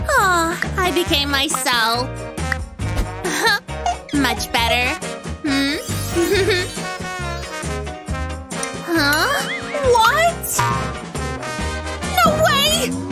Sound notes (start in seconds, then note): 6.6 grumbles; 11.1 groans